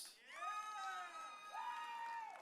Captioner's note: audience cheering